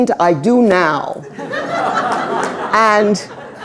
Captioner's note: laughter